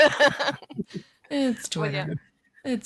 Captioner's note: laughter